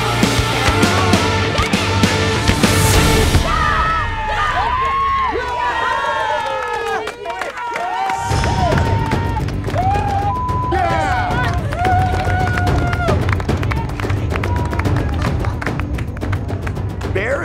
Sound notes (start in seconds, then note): 3.5 audience cheering; 12.3 beep; 15.7 applauding